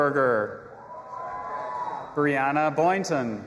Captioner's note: audience applauding and cheering